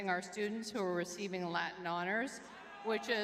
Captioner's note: audience cheering